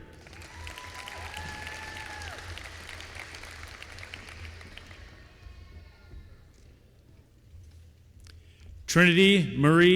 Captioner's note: applause